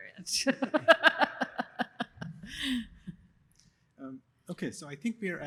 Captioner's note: laughs